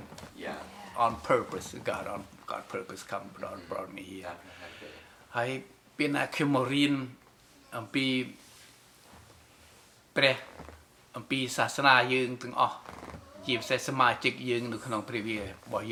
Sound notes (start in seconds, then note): 4.5 in Khmer